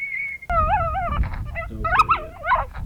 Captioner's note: animal call